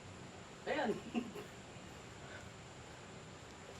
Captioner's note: giggles